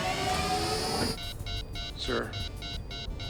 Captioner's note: satellite powering on; computer beeping